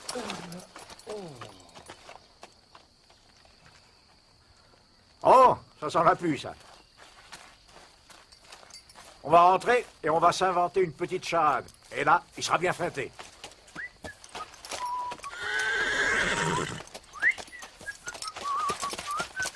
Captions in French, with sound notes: -Oh ! Ça sent la pluie, ça. On va rentrer et s'inventer une petite charade. Et là, il sera bien feinté. [Sifflotement] [Hennissement]